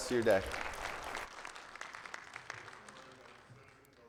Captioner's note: attendees clapping